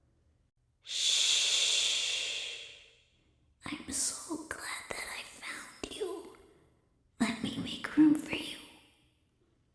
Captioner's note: weak, young girl's voice